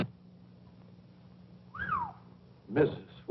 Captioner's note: whistle